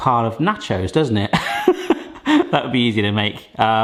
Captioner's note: laughing